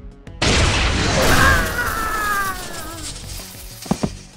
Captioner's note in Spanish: grita